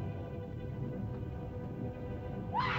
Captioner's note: Loana speaks in caveman language; volcano rumbles; screams